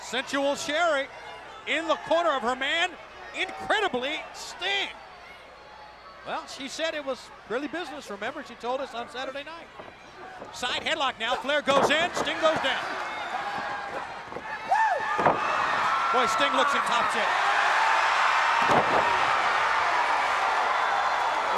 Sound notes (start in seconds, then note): 14.7 Sting howling; 14.7 crowd cheering; 17.8 crowd cheering; 18.6 Ric thudding on ring